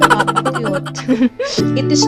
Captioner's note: laughs